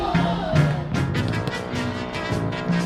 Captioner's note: gasps